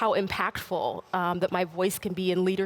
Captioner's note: none